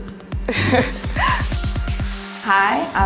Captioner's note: nervous laugh